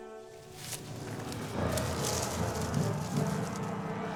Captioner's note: dark elves yelling